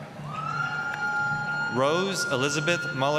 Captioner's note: applause, cheering